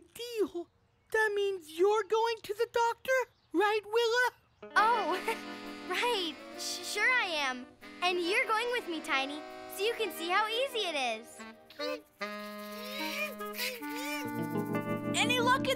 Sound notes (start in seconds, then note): 7.8 whimpering